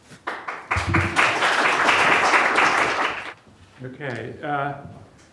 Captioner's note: audience applauds